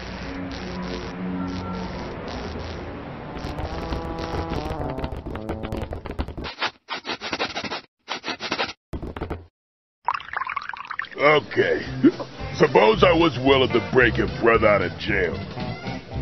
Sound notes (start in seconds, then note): 6.9 the centidog sniffs; 12.0 hiccups